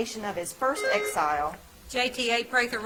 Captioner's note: bell ringing